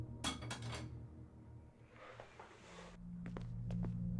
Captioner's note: object clattering; foreboding music